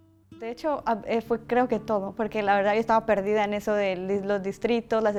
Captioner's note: speaking Spanish